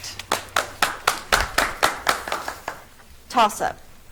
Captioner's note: audience clapping